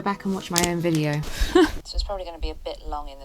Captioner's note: laughs